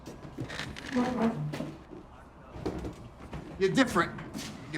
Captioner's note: chair squeaks